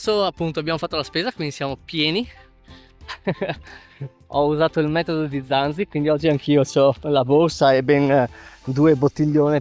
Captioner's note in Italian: risate